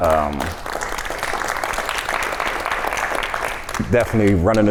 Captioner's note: audience applauds